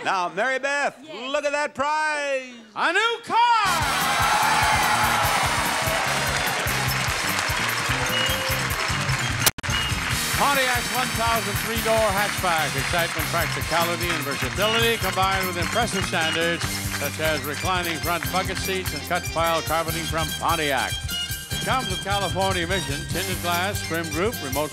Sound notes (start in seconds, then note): 3.6 audience cheering; 4.3 audience clapping